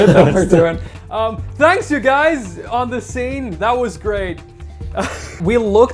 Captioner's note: chuckles